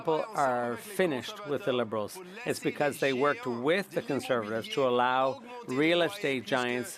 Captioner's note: speaking French